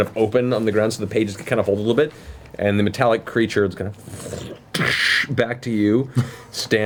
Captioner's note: shifting metal